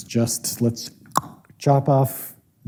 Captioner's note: tongue clicks